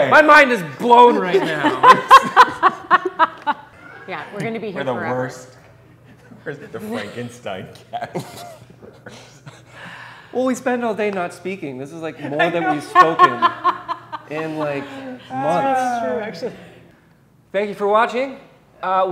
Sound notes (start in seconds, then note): 1.0 all laughing; 7.8 all chuckling; 12.3 laughing